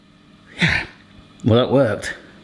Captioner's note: sighs